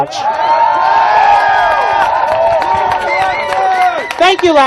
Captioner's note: applause cheers